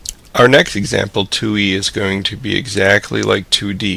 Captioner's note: voiceover